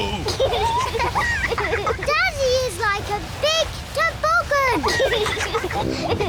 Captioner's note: both giggle